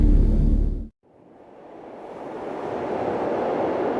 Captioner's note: wind whooshing